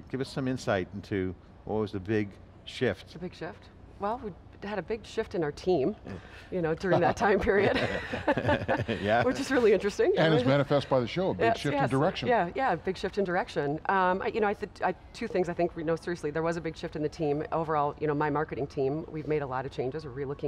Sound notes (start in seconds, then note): 6.9 both laughing